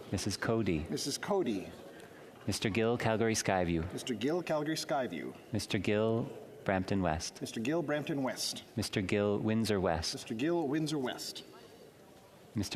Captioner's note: calling of recorded vote